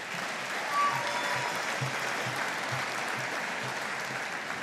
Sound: audience applauding

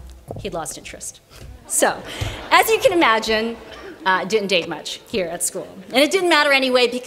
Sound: laughter

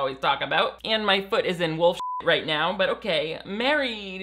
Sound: beep

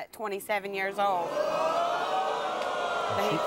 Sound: audience groans

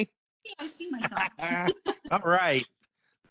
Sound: chuckling

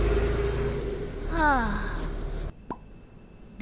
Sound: sigh

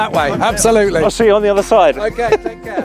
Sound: chuckles

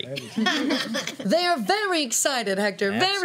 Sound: laughter

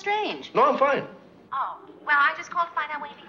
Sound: on phone

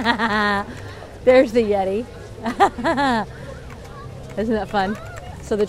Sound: laughing; laughing

